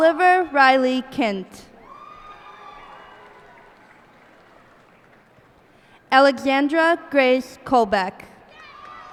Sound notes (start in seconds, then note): 1.7 cheers and applause